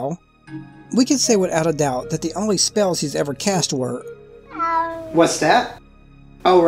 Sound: meow

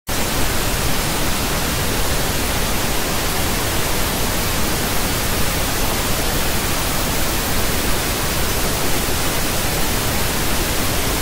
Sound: pink noise

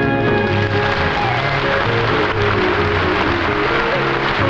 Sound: audience applauding

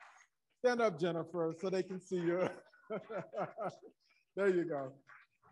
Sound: laughs

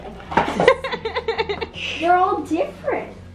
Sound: laughs

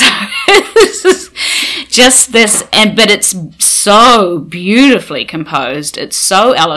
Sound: laughing

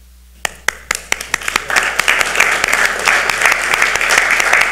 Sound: audience applauds

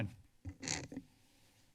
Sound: microphone squeeking

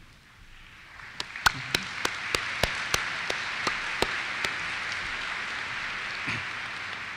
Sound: applause

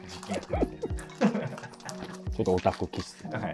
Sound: laughing

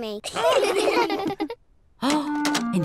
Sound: all laugh

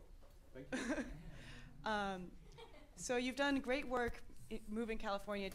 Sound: chuckles

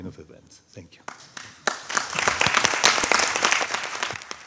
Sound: audience applauding

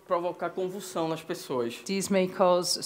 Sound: speaking Portuguese

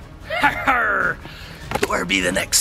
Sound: laughs mischievously

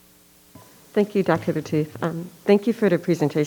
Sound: microphone beeping

